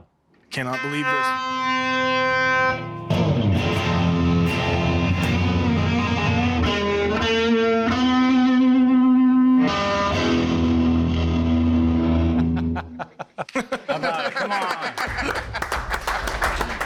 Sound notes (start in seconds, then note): 2.4 guitar riffs; 12.2 laughter